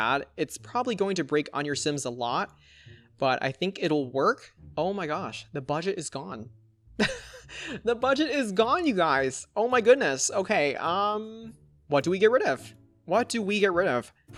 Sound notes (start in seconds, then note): 7.0 laughs